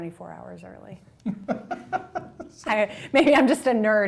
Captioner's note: laughing